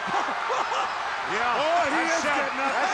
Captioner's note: crowd roars